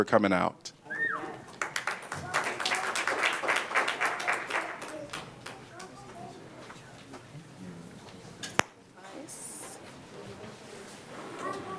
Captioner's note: applause